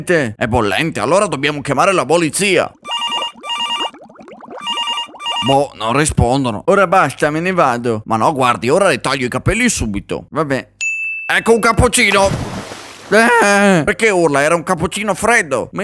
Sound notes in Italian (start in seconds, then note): 2.8 squillo di telefono; 10.8 ding